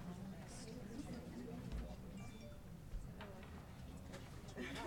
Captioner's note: people chattering